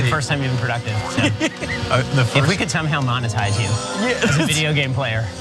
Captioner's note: laugh